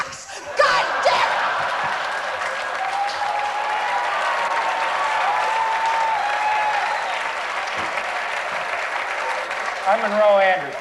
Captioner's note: applause